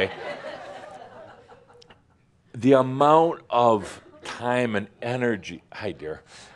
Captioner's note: more laughter